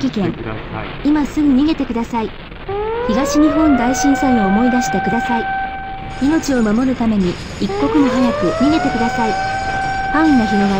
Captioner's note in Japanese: ラジオ